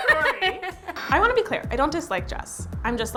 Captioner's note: laughing